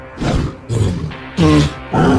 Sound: Triceratops roaring

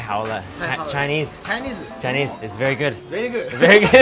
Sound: speaking in Chinese

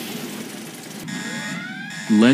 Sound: alarm blaring

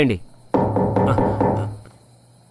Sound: pounding on door

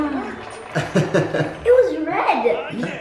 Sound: laughing

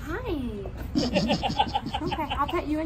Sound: laughter

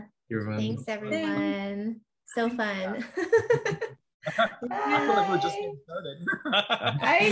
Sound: laughter

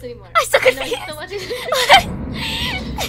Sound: laughing

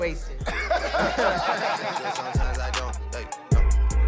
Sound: laughter

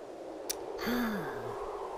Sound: sigh

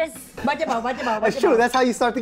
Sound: speaking foreign language

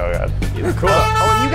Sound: car honks

